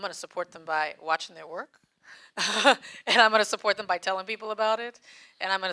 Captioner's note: laughs